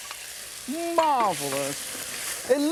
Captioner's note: oil sizzles